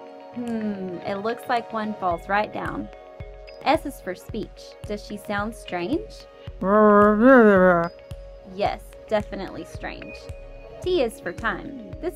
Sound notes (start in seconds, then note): 6.6 grandma gibbers